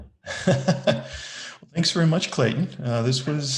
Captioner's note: laughs